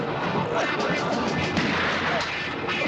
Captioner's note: gunshot